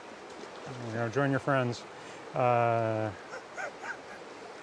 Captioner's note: laughing